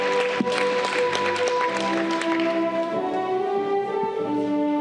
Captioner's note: audience clapping